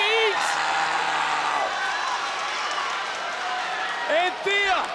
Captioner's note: audience cheers